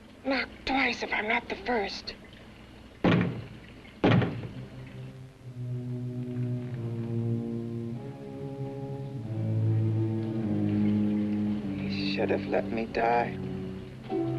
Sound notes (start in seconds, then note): 3.0 two knocks on door; 4.3 ominous music